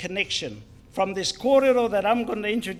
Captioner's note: foreign Language